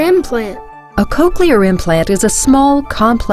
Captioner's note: voiceover